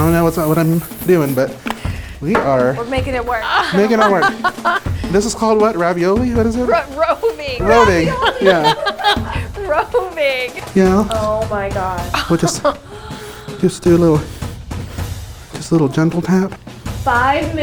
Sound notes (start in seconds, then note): 2.8 laughs; 12.2 laughs